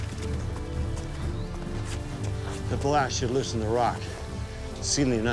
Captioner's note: speaks tribal language